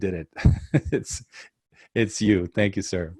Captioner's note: laughs